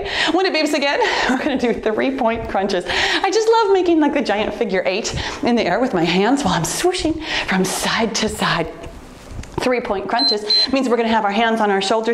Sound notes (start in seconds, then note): 10.2 timer beeps